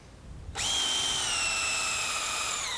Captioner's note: drill whirring